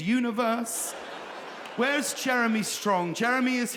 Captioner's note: audience laughing